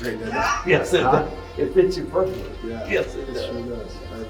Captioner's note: laughs